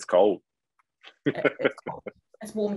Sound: laughing

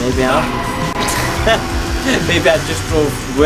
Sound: laughs

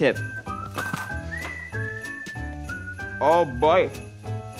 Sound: crunching

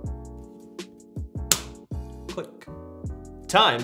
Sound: magazine clicking

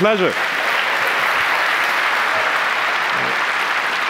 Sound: applause

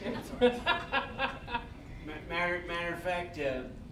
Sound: all laughing

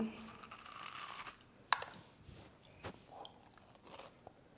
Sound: crunches

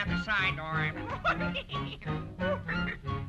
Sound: chuckles

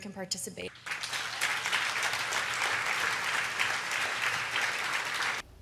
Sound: applause

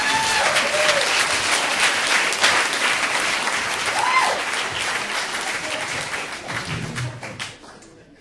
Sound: audience applauding

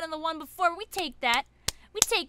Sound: starts clapping

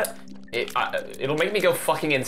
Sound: stammering

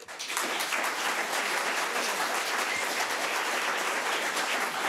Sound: audience applauding

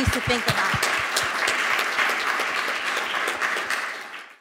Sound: applause

